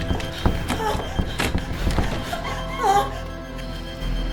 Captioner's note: door banging; Caroline moaning; dramatic music